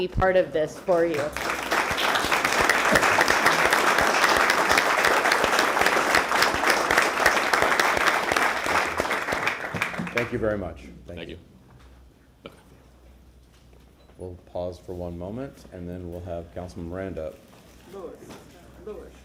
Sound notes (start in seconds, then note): 5.0 applause